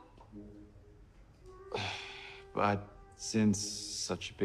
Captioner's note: sighing